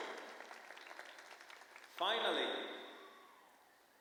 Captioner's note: applause